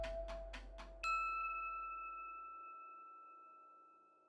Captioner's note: logo dings